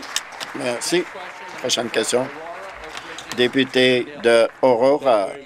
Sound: applause

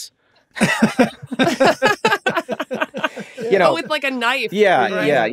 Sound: all laughing

